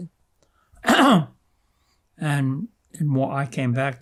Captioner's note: clears throat